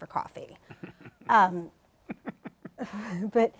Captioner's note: chuckles